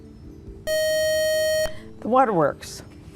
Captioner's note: buzzer